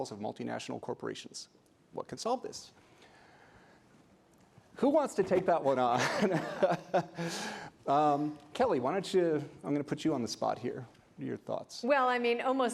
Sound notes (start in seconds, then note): 6.0 laughing